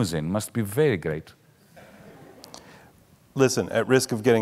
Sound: audience laughing mildly

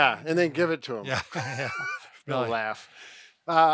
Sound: laughing

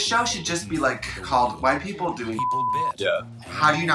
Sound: beep

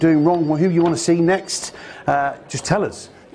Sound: phone ringing

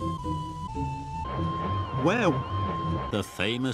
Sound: Percy puffing in both directions

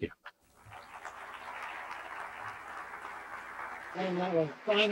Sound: audience applauding

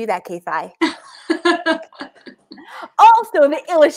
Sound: laughing

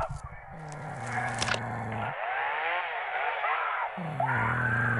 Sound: chimp snoring

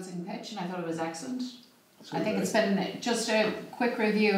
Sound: background talking at meeting

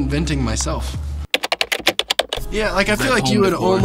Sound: keys typing

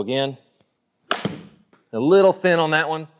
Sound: golf ball cracks

